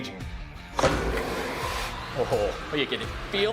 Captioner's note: motors running